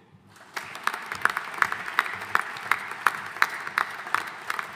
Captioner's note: audience applauding